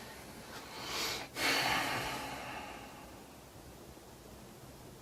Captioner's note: exhales loudly